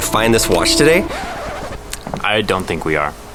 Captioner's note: record scratch